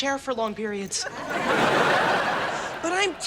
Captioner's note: audience laughs